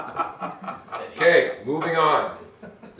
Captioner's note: laughter